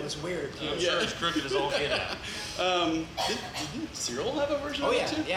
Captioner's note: laughs